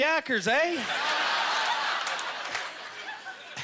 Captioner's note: audience laughter